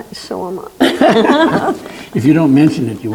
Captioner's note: laughing